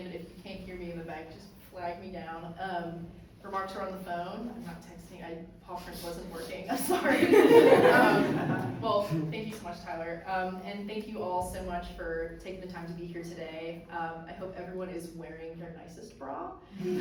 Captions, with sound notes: but if you can't hear me in the back, just flag me down. Remarks are on the phone. I'm not texting. PawPrint wasn't working. I'm sorry. (audience laughs) Well, thank you so much, Tyler, and thank you all so much for taking the time to be here today. I hope everyone is wearing their nicest bra.